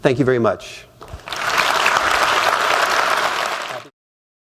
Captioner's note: applause